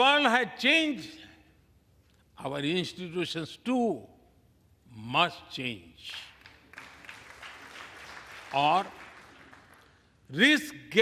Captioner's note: applause